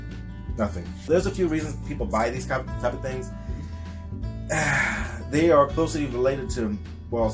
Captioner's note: exhales